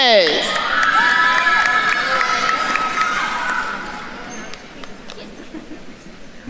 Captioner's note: attendees cheering and applauding